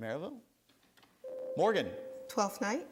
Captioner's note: buzzer sounds